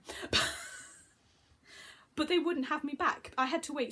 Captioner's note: laughs